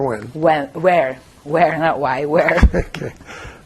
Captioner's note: laughing